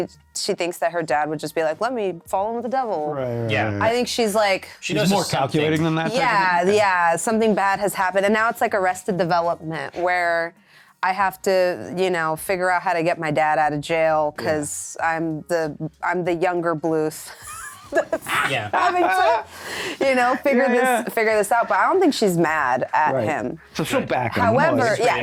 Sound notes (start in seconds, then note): 17.3 laughs